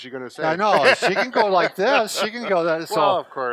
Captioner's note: laughs